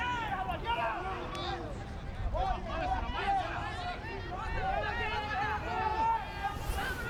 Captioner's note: players yelling in foreign language